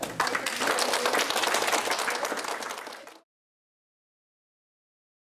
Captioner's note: audience applauding